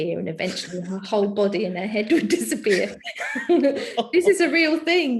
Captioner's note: chuckling